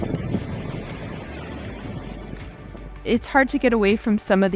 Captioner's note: waves crashing